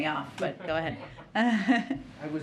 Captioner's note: laughter